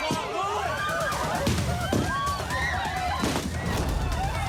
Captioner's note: people screaming, fireworks exploding